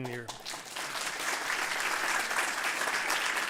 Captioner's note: audience clapping